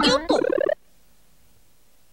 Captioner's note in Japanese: 効果音